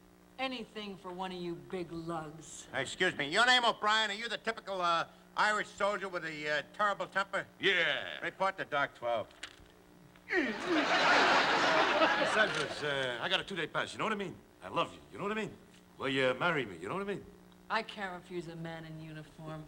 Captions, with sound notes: Anything for one of you big lugs. Excuse me. Your name O'Brien? Are you the typical Irish soldier with a terrible temper? -Yeah. -Report to dock 12. [ Grunting ] [ Laughter ] Say, Miss, I got a two day pass, you know what I mean? I love you. You know what I mean? Will you marry me? You know what I mean? I can't refuse a man in uniform.